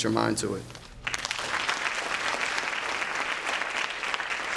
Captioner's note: applause